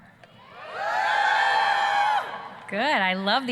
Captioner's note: students screaming, cheering